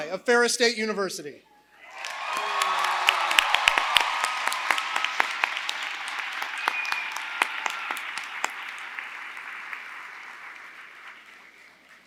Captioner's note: applause